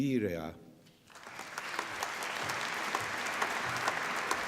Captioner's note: applause